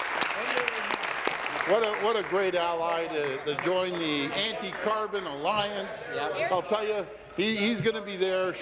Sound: applause; continued applause

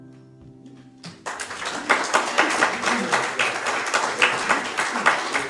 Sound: applause

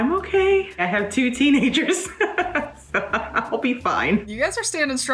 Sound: laughs

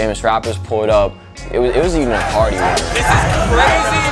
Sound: crowd chanting

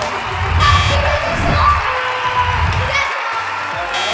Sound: buzzer; yelling

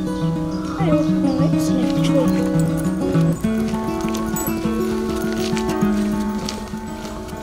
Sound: sound of birds tweeting

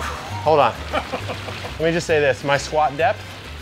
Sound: laughs

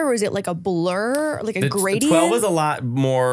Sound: laughing

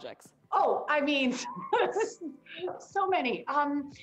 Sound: laughs

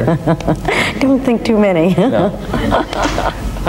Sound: laughing

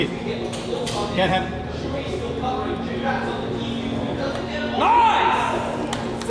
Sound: moderator chattering

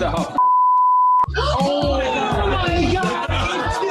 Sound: people exclaiming

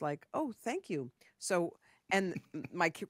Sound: José chuckles

